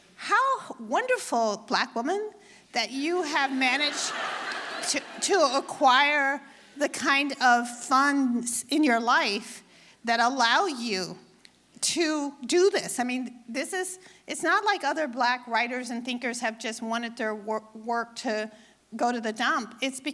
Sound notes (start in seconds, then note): 3.4 audience laughing